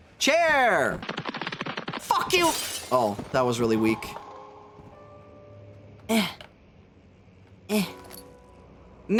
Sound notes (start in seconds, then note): 1.0 cartoon running sfx; 3.3 soft music